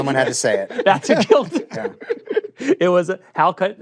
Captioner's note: laughter